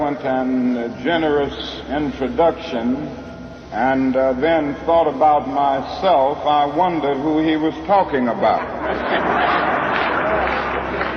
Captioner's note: audience laughs